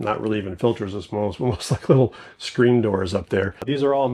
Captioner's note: chuckles